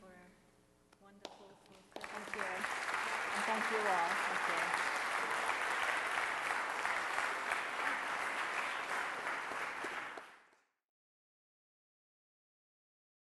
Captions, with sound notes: for a wonderful program. - Thank you. (audience applauds) And thank you all.